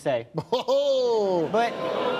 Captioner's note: laughs